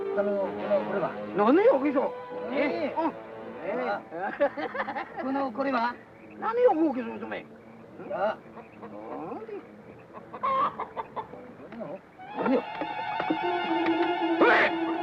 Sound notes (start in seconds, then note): 0.3 men speaking in Japanese; 9.4 bird bawking; 12.2 tense suspenseful music; 14.7 men speaking in Japanese